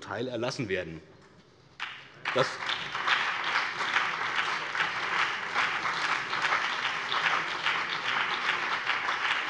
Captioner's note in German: Lebhafter Beifall BÜNDNIS 90/DIE GRÜNEN und CDU